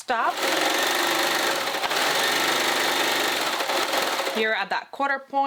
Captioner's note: sewing machine running